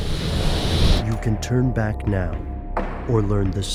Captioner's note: voiceover